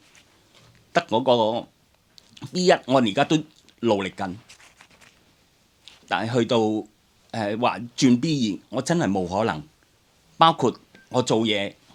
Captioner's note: Cantonese